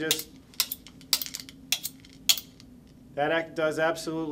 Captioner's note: knife scraping against metal